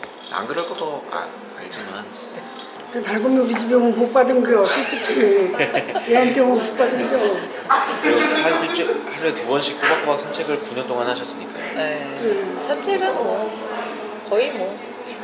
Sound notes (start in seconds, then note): 4.6 laugh